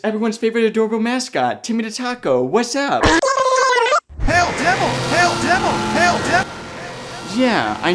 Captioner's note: satanic rumbling